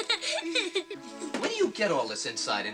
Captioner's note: giggles